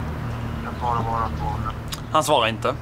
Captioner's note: goes to voicemail